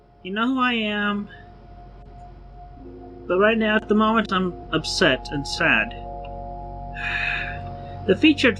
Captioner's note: sigh